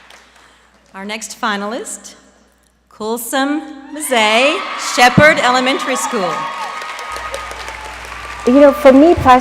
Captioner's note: applause